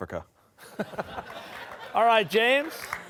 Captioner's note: laughter